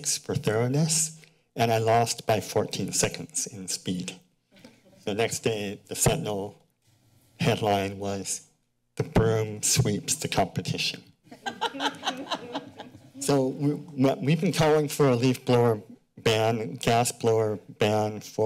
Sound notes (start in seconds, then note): 11.3 laughter